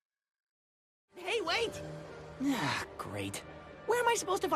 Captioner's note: sighs